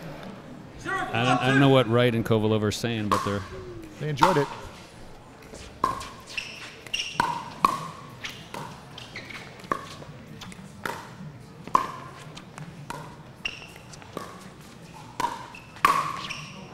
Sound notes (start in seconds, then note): 5.4 ball bouncing